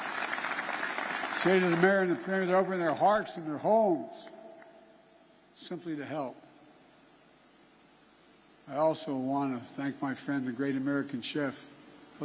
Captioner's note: applause